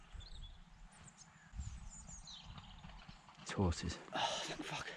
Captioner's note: distant rumbles